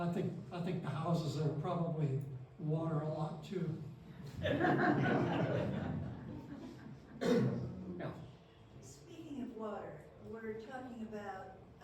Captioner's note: laughter